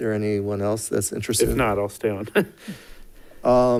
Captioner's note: chuckles